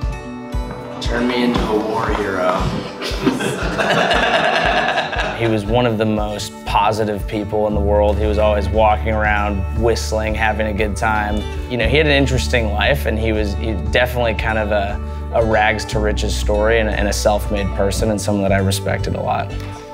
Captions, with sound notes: Turn me into a war hero. (laughing) He was one of the most positive people in the world. He was always walking around, whistling, having a good time. You know, he had an interesting life and he was he definitely kind of a rags to riches story and a self-made person and someone that I respected a lot.